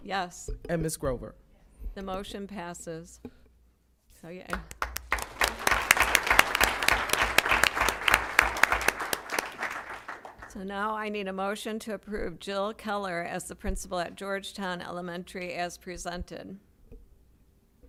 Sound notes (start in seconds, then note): 4.5 applause